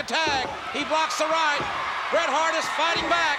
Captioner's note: spectators cheering